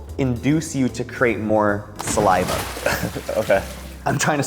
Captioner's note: water splashing